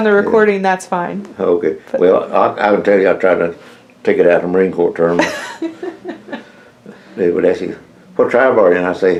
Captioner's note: laughter